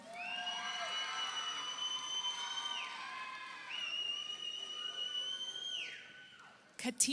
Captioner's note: audience applauds; audience cheers